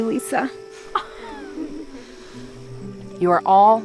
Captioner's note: campers giggling